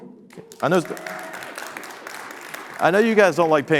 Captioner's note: audience clapping